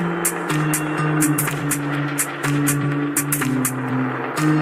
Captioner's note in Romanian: Aplauze